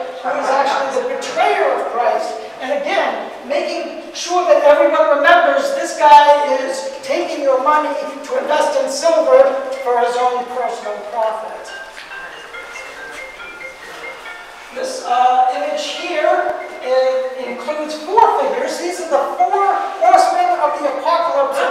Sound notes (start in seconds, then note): 10.9 phone ringing